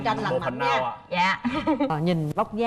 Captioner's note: chuckles